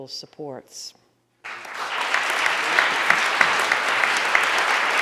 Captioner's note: audience applauding